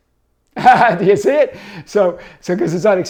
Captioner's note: laughs